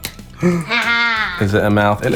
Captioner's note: exclaims in joy